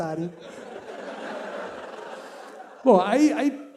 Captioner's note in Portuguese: risos